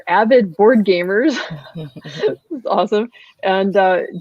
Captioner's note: laughs